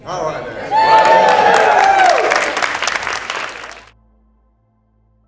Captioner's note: audience applauds